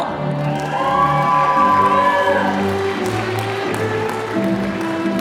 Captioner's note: applause